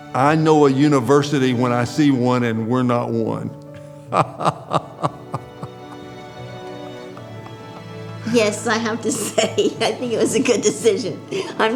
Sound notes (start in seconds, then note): 3.7 laughing